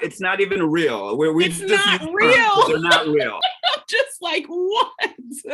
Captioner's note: laughs